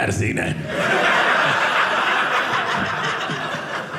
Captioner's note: audience laughing